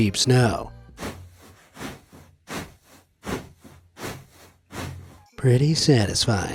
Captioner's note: fabric crunches